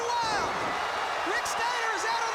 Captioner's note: crowd cheering